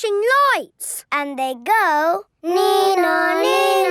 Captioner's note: imitating siren